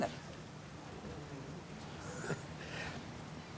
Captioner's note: rain pattering